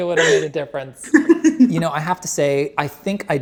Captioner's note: laughs